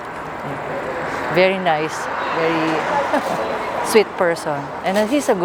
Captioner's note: giggles